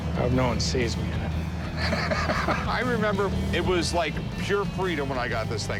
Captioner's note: laughs